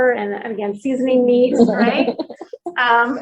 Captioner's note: laughing